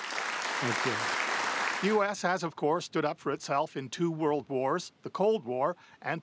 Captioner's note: applause